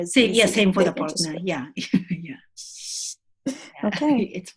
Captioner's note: laughs